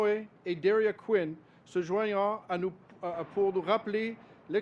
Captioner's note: speaks French